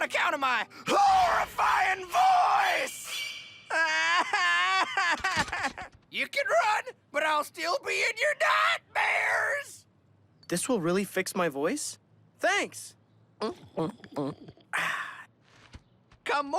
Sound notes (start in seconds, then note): 3.7 cries; 13.4 gulping